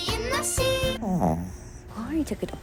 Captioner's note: snores